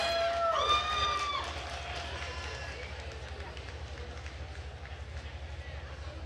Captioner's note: attendees cheering and applauding